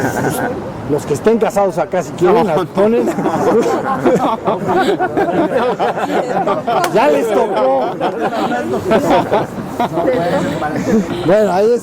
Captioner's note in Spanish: Risas; Risas